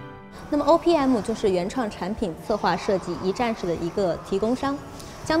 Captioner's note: speaking in Chinese